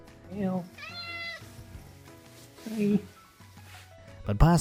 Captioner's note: cat chirping